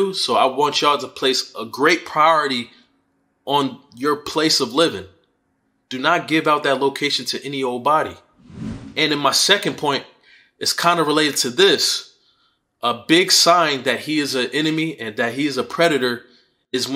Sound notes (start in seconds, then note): 8.4 swooshing sound